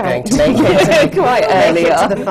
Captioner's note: laughter